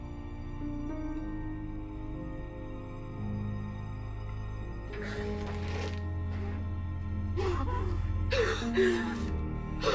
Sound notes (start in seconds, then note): 4.9 sniffing; 8.2 gasping